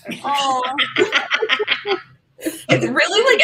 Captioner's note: laughter